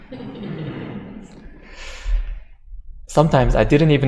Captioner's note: audience laughter